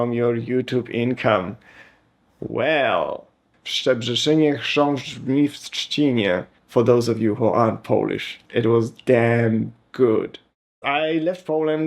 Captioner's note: speaking in Polish